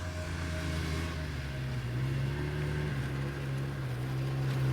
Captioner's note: snowmobile sounds